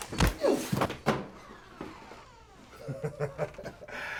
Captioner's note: door clatters open; feet clomping; blow lands; laughs